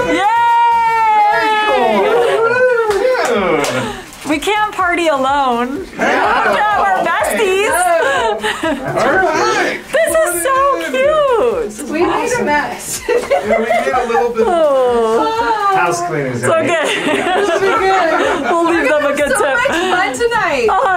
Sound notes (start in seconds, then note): 2.8 claps; 12.8 laughs